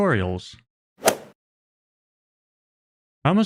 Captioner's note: golf ball hit sound effect